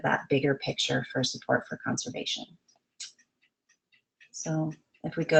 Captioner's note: clicks